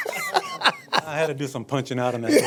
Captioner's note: laughter